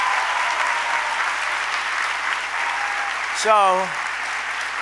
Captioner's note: applause